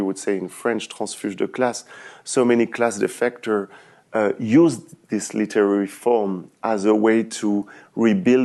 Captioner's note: french